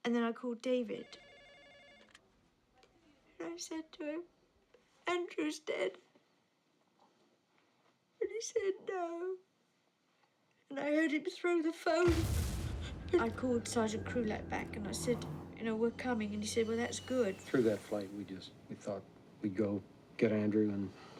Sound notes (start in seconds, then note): 1.0 phone ringing; 5.2 voice cracking